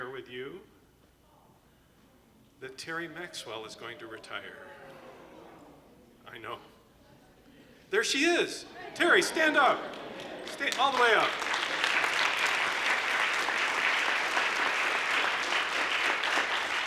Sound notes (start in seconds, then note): 5.1 moans; 10.7 applause